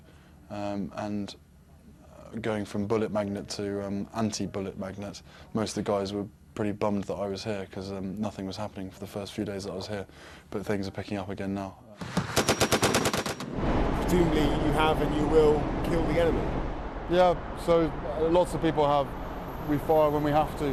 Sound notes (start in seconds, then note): 12.0 gun firing; 13.7 voiceover